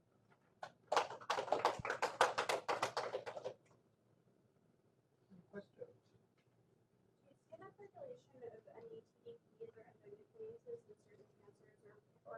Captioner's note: applause